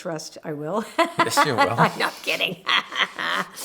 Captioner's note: laughter